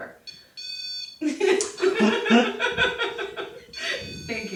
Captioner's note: beeping